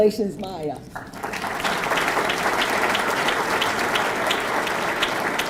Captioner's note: audience clapping